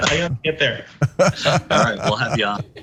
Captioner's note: laugh